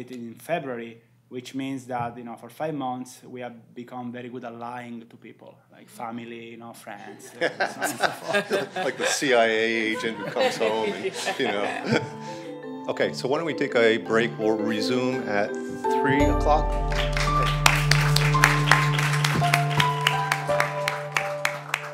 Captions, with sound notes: in February, which means that for five months, we have become very good at lying to people like family friends. [LAUGHTER] - Like a CIA agent who comes home. OK, so why don't we take a break. We'll resume at 3:00. [APPLAUSE]